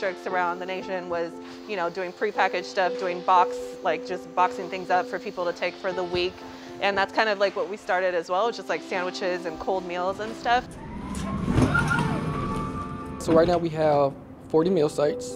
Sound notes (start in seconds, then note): 11.2 sound of palates being moved